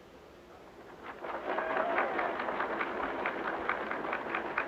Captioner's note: audience cheering